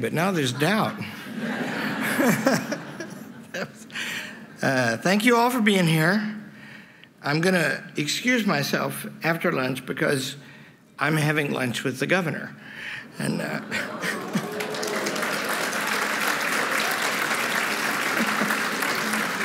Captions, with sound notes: but now there's doubt. [LAUGHTER] Thank you all for being here. I'm going to excuse myself after lunch because I'm having lunch with the governor. [APPLAUSE]